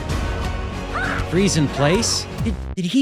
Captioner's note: exciting music; shouting